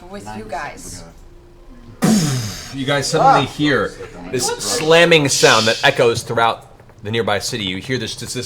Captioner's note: impact